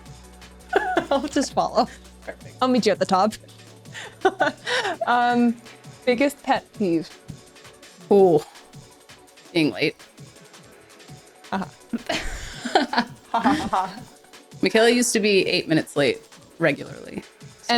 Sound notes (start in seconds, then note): 11.9 laughing